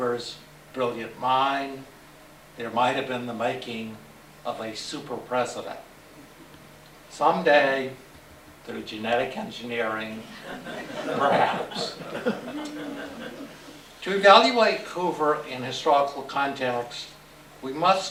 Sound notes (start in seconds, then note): 10.3 laughter